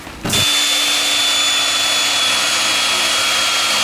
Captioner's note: drilling